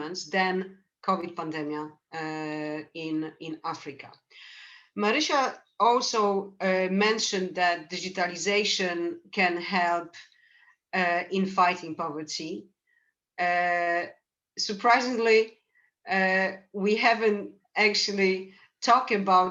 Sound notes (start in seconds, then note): none